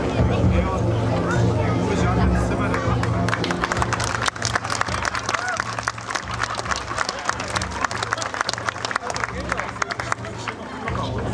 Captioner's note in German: Applaus